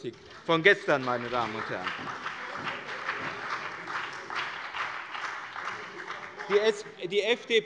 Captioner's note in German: Beifall bei der CDU und dem BÜNDNIS 90/DIE GRÜNEN